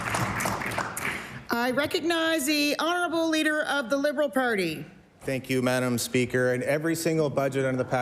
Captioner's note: applause